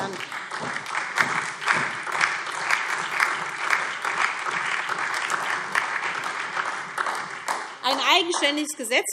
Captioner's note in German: Beifall SPD, Freie Demokraten und DIE LINKE